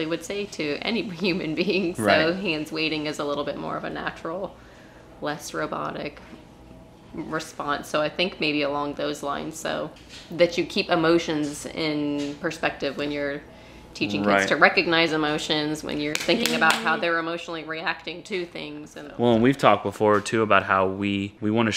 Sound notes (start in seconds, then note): 16.1 clapping